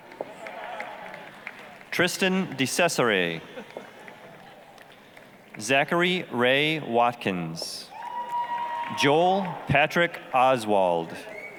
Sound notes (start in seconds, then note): 0.0 applause, cheering; 3.5 applause; 7.9 applause, cheering